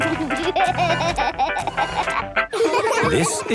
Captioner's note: giggling; upbeat music